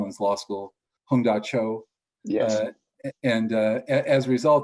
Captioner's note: speaks in foreign language